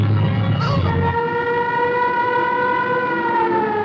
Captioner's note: sirens wailing